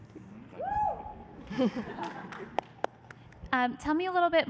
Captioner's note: cheer; laughter